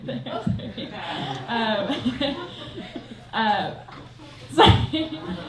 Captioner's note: laughs